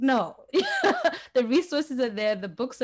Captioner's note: laughs